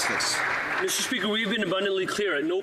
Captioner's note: some Applause